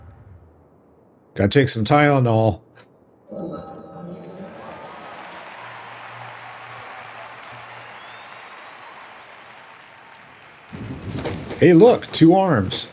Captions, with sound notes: Gotta take some Tylenol. [Applause] Hey look, two arms.